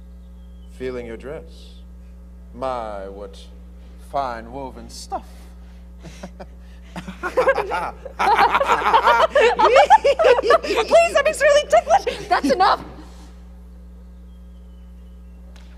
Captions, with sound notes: - Feeling your dress. My what, fine woven stuff. (laughing) (Elmire laughing) (Tartuffe laughing) - Please, I'm extremely ticklish. That's enough.